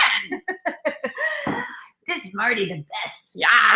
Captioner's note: laughing